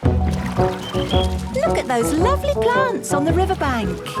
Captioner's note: chirping